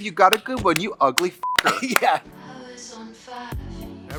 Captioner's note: laughs